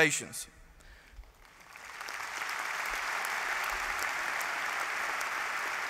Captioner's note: applause